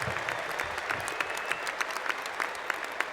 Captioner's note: cheers and Applause